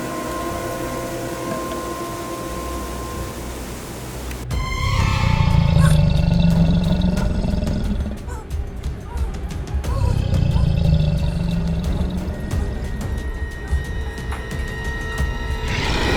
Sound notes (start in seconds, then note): 5.2 creature roaring